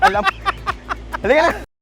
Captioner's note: continues laughing